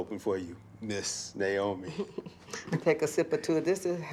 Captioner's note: Naomi chuckles